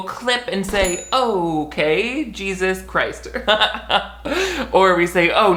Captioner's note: bell rings; laughs